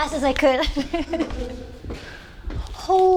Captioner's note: laughs